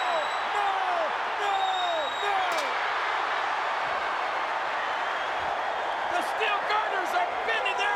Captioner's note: crowd cheering